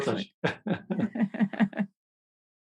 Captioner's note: laughing